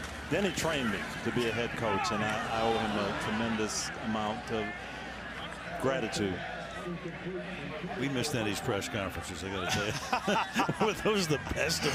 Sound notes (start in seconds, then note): 6.7 pa announcement; 9.6 laughter